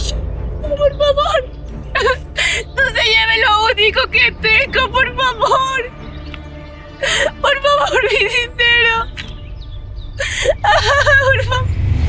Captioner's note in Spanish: risas